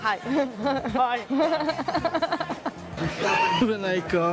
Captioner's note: laughter